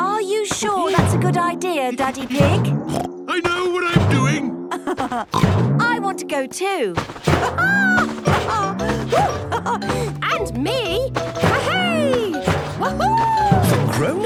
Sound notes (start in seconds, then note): 0.0 laughs; 2.0 snorts; 4.6 laughs; 7.4 laughs